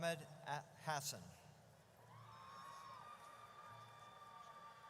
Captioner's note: audience cheers